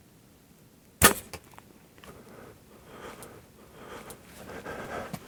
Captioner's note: bowstring twangs